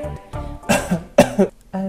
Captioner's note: cough cough